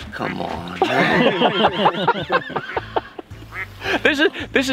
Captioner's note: group laughs